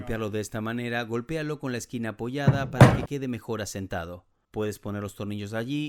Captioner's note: Se oye el martillo